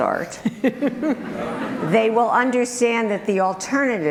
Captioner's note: group laughter